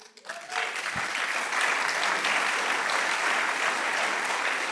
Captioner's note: audience applauding